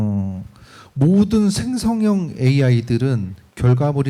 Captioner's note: speaking korean